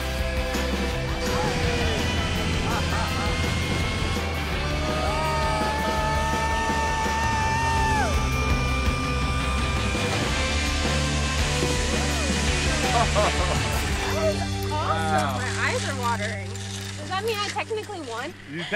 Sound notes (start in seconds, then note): 2.6 laughing; 5.0 hollering